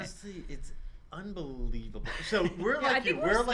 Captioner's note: laughter